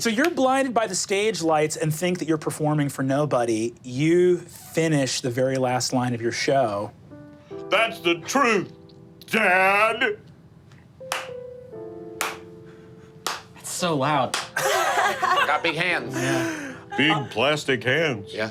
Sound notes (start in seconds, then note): 10.4 clapping; 14.6 laughing